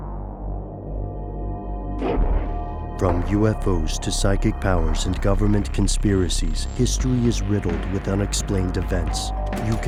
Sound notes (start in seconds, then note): 0.0 eerie music; 3.1 voiceover